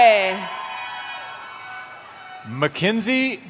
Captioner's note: cheering